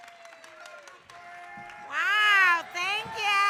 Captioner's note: audience cheering